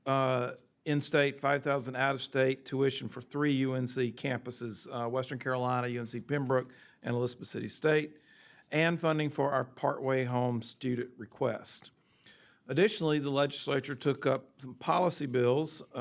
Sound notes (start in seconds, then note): none